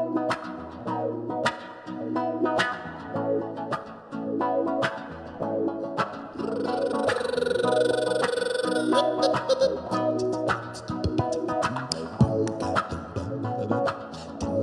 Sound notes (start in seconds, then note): 6.4 rolls tongue; 10.7 mouth percussion